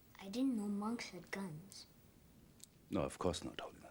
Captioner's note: none